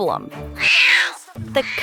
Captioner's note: crying